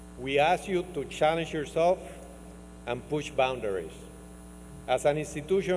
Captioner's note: none